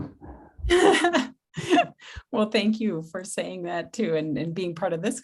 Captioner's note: laughing